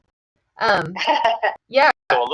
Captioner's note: laughs